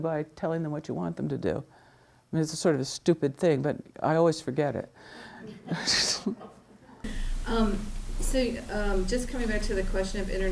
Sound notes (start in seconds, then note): 5.2 laughs; 5.7 students laughing